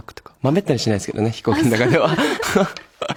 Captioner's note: laughs